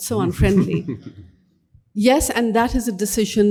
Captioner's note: laughs